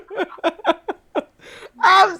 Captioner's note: laughing